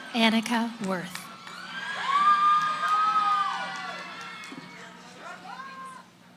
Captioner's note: cheering